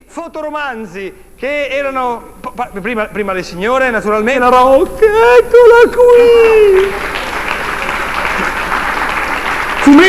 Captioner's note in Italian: applauso